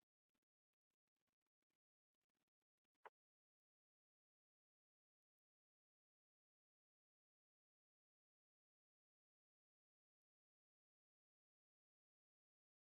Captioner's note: long silent pause